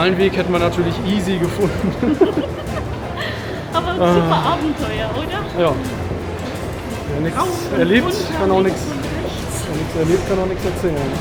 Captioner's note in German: lachen